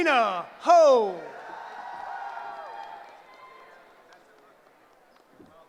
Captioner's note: cheering